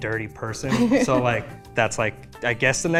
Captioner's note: laughs